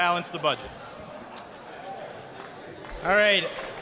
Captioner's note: applause